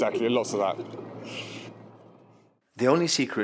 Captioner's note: interviewer chuckles